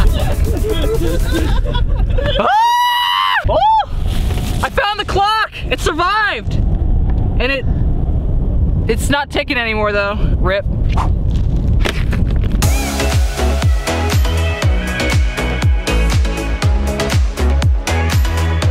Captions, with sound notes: (laughter) (screaming) I found the clock, it survived, it's not ticking anymore though, RIP (fast music)